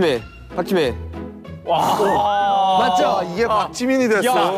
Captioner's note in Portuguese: Suspiro de quem sabia a resposta